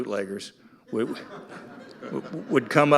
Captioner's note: audience laughing